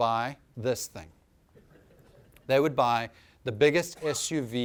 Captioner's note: laughter